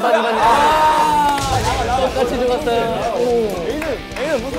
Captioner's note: wails